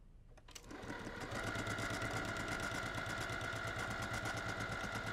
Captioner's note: sewing machine humming